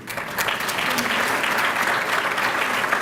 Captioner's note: applause